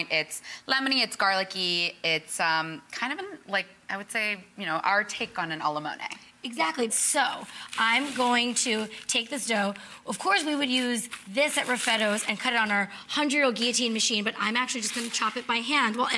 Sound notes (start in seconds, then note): none